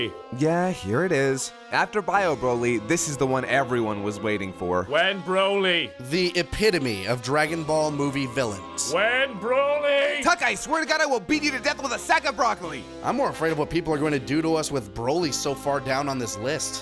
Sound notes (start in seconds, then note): 10.2 shouting angrily